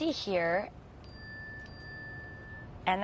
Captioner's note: bell dings